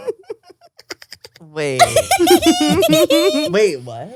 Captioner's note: laughs